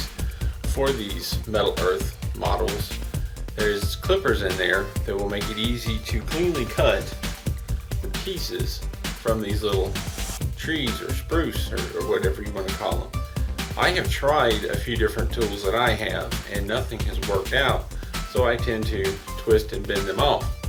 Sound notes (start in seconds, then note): none